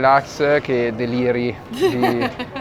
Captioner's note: laughter